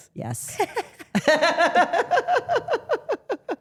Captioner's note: group laughs